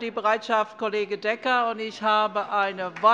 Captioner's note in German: Beifall